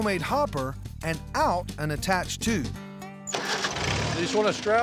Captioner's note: tractor motor starts